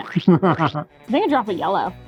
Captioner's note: chuckling